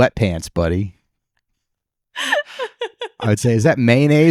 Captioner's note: laughing